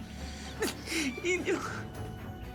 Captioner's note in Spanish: sollozos